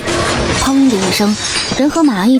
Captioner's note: thud!